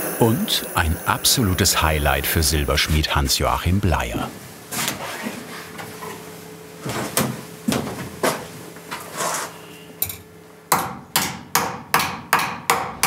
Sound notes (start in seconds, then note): 10.7 metal hammering